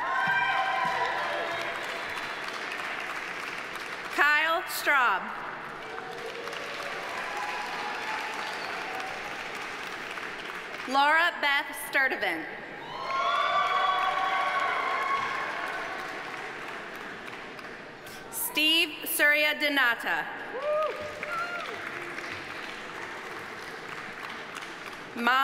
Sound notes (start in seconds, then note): 0.0 audience cheering; 0.0 audience applauding; 5.6 audience applauding; 5.8 audience cheering; 12.8 audience cheering; 12.9 audience applauding; 20.5 audience cheering; 20.5 audience applauding